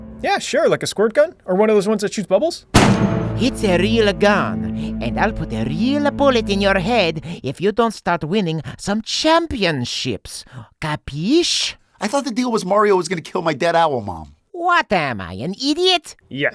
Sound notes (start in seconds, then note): 0.0 dramatic orchestral music; 2.7 gunshot bangs